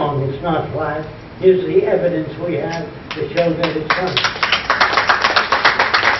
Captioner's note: applause